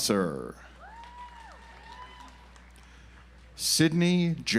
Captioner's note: audience applauds